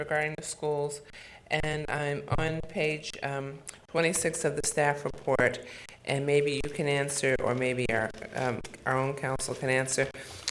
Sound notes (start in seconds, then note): none